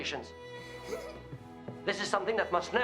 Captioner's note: Suzanne giggles